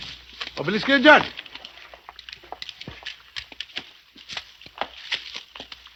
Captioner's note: speaking in foreign language